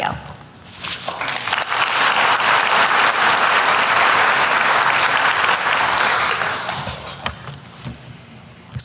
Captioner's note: applause